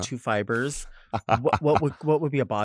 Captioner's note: laughs